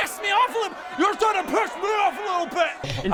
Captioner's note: angry mob